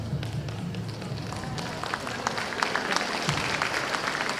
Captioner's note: applause